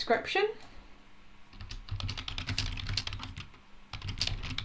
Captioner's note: types loudly